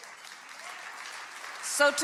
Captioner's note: crowd cheering